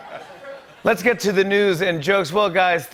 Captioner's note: laughter; normal voice